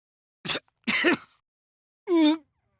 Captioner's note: pained cough; pained groans